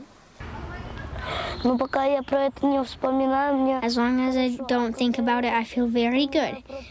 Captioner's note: through translator